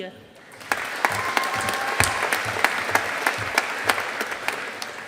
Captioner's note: audience applauding